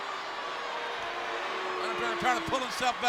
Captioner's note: crowd boos